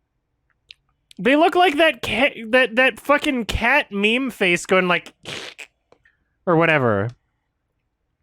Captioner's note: imitation hiss noise